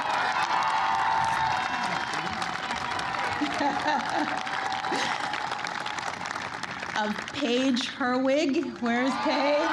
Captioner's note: applause